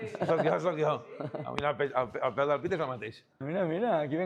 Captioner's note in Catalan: rialles